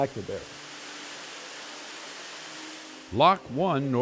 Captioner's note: water hissing